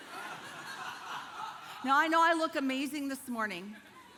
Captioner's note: congregation laughing